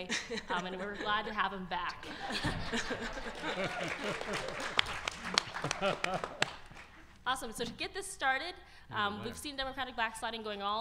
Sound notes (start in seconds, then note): 2.0 audience laughter; 4.3 audience applause